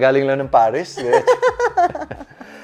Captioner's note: laughs